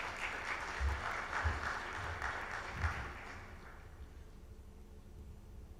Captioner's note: audience applauds